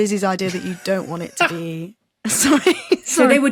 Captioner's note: stifles laugh; laughs